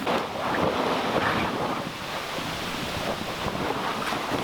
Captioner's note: tarp rasping